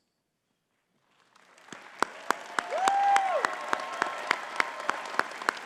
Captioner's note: audience cheering and clapping